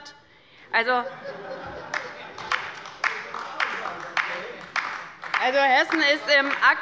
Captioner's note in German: Heiterkeit und Beifall bei Abgeordneten der LINKEN und der SPD